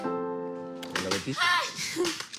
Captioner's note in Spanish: Grito